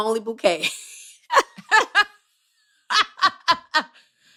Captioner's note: laughter